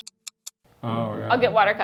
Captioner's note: clock ticks